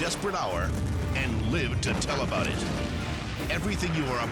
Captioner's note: fire igniting